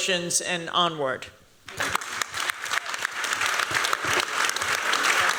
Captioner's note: applause